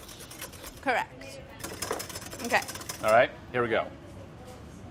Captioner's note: whisk hitting glass